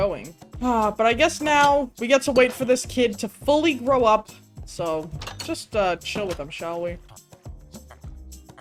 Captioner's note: sighs